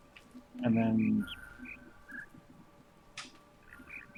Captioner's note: bird chirps five notes